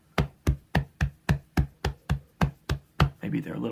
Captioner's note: thumping